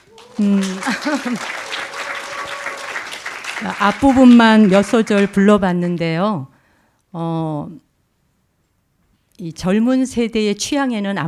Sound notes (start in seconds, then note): 0.0 audience applauding; 4.4 speaking in Korean